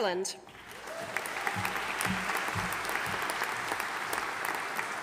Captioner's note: audience applauding